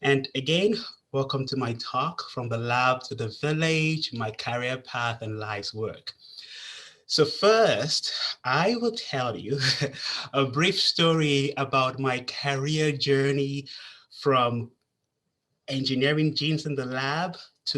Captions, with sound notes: And again, welcome to my talk From the Lab to the Village: My Career Path and Life's Work. So first, I will tell you (chuckles) a brief story about my career journey from engineering genes in the lab,